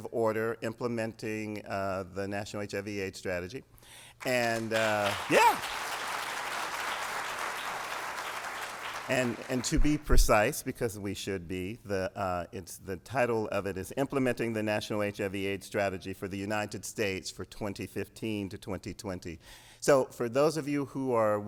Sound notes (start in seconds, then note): 7.3 applause